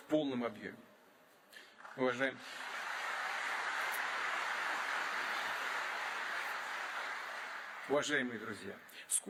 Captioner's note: applause